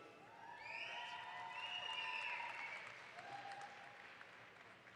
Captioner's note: audience applauds